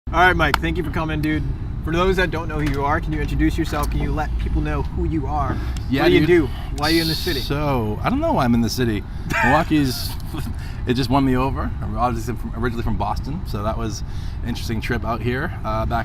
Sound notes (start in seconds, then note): 9.3 laughs